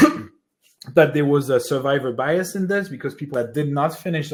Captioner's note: coughs